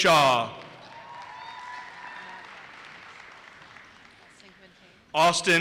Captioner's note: audience cheers and applauses